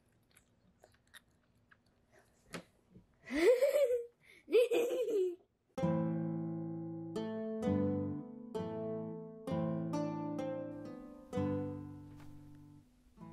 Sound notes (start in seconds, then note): 4.4 giggling off screen